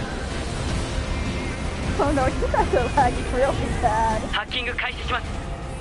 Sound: laughs

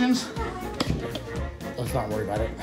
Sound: mumbles

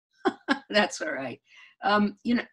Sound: laughing

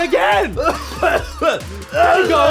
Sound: coughing a bunch

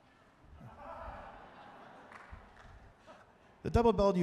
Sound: tuba players laughing

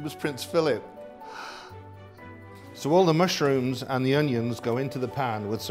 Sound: gasping

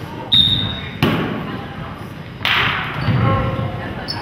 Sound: whistle blows

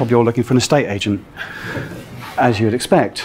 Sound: a few laughs from the audience

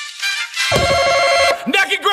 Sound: buzzer

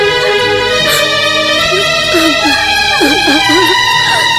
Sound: crying

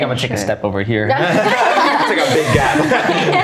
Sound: everyone laughs

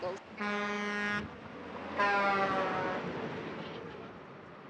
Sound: semi honking

